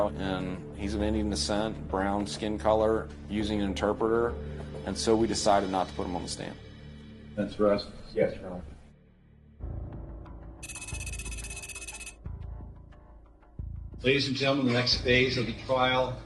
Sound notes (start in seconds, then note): 9.0 tense music; 10.5 tense music continues; 10.6 rapid electronic beeps